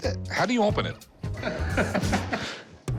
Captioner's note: laughter